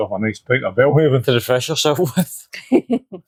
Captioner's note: Yak laughing